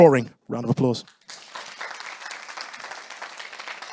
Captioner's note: audience applauding